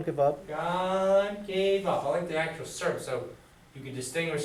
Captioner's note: voiceover; speaks fast